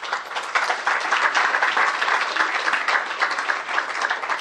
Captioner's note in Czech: potlesk